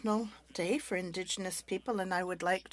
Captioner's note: speaking French